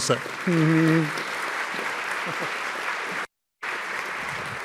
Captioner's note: audience clapping